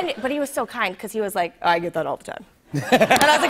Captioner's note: laughter